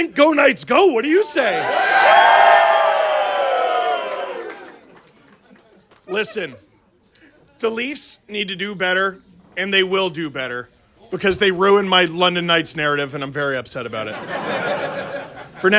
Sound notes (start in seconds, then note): 1.7 crowd: Applause